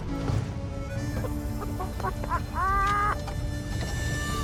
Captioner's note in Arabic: ضحك